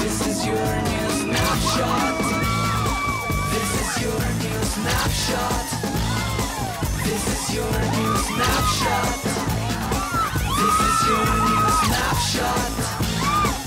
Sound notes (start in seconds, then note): 2.2 girls screaming; 13.4 girls screaming